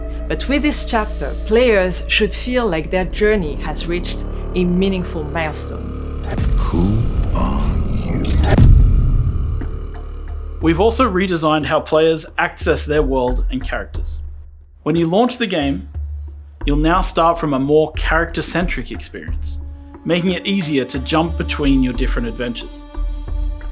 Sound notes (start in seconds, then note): 6.2 deep voice